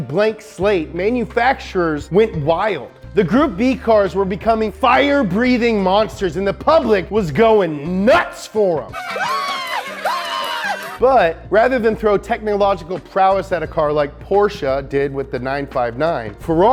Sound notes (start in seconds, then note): 8.9 screaming